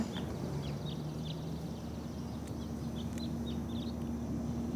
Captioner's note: birds singing